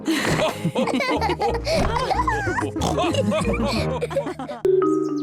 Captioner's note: all laughing